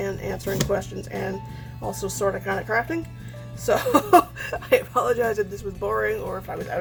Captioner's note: laughs